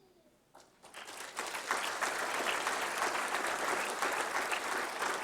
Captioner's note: applause